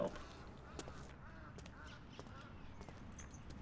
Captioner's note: bird cawing